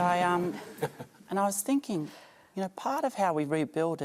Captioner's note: laughter